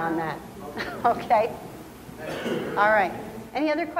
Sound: laughs

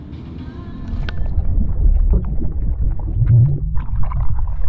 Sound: water flowing

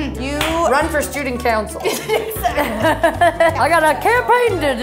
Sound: laughs

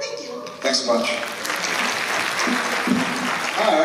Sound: applause

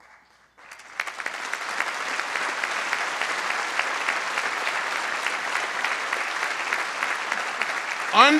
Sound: applause

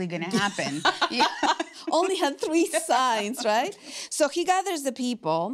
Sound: laughs

